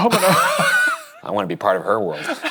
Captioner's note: both laughing